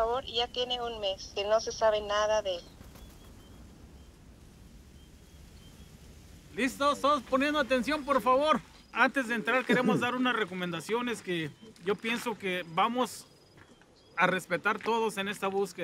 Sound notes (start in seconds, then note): 0.1 recording of woman speaking Spanish; 8.6 group leader speaks Spanish